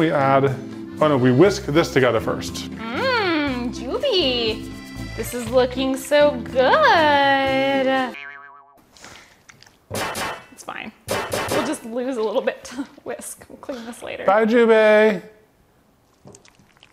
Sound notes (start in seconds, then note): 9.4 mixture squishing; 9.9 metal clanking